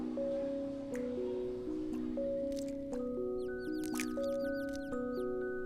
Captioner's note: bird chirping